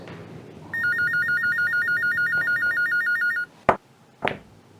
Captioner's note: phone ringing